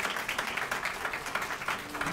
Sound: crowd clapping; loud clapping; logo music

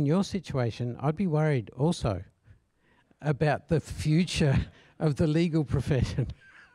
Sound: laugh

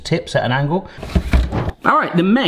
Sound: drawer clunks

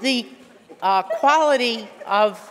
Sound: laughter

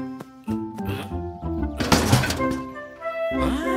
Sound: thump

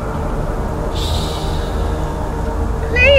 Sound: tommy shushes

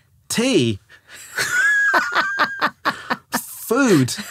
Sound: laughing

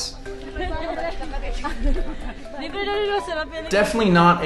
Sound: tourists talking

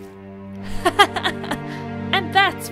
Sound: laughs

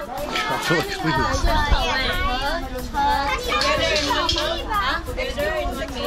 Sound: crowd chatters in Filipino

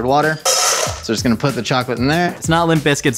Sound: clunk

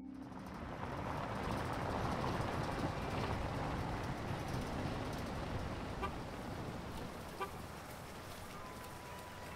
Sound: driving over rough terrain and grass, with traffic and honking ambience

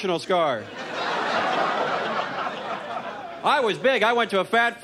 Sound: scattered laughter

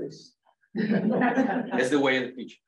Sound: laughter

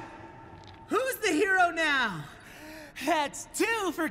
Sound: deep breath

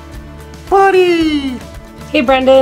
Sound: in high-pitched voice

